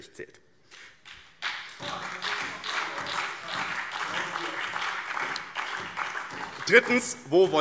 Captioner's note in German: Beifall BÜNDNIS 90/DIE GRÜNEN und vereinzelt SPD